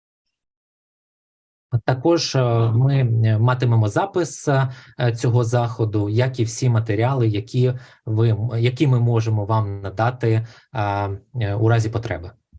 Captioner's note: foreign Language Spoken